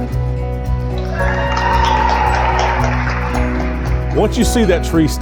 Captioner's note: clapping and cheering